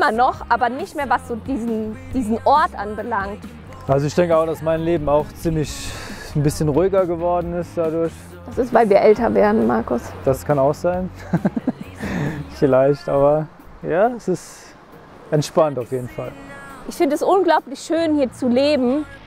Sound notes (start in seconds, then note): 11.1 laughter